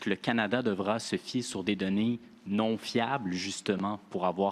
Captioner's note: speaking French